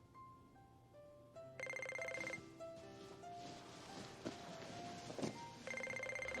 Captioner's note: ringing